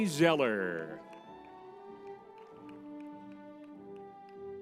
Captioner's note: crowd cheering